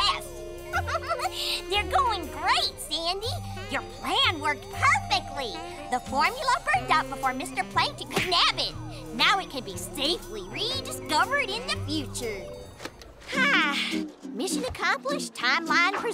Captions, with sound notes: [giggles] They're going great, Sandy. Your plan worked perfectly! The formula burned up before Mr. Plankton could nab it. Now it can be safely rediscovered in the future. [sighs] Mission accomplished. Timeline preserved.